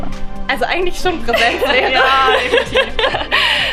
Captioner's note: laughs